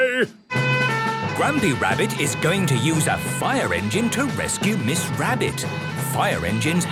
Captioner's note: sirens